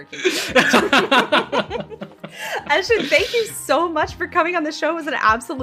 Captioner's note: laughs